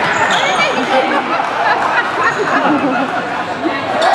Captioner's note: people start laughing